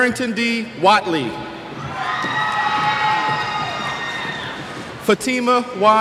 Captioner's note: cheers